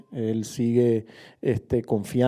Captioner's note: Spanish